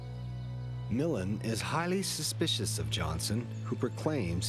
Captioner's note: voiceover